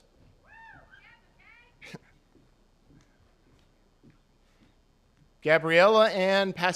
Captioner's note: attendees cheering; chuckles